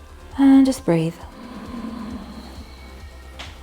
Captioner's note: exhaling